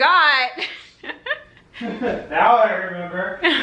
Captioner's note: background laughing; laughs